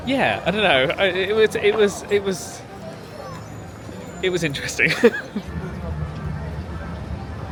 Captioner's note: laughs